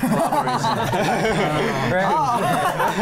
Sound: laughing; laughs

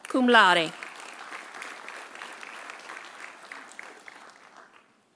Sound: audience applauding

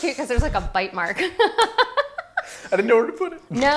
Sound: laughing

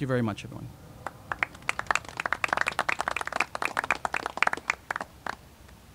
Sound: applauding

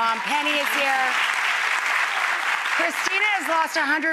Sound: audience applause

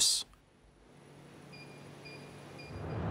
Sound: beeps

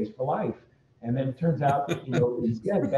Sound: laughs

